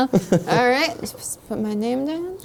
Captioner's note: laughing